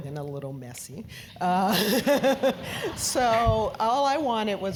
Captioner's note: laugh